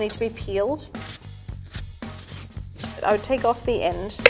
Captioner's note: peeler grinding on turnip